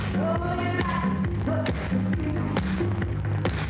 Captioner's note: none